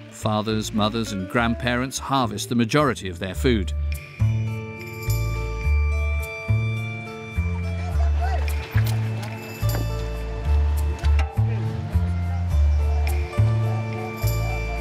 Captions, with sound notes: Fathers, mothers and grandparents harvest the majority of their food. (light music) (people chattering)